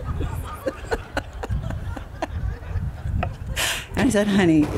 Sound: laughter

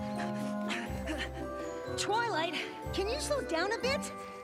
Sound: panting

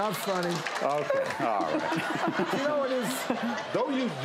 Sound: laughing

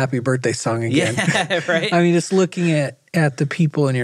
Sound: laughing

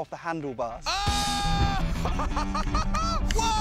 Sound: commentator 1 laughs

